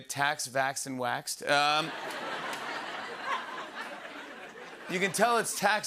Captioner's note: laughter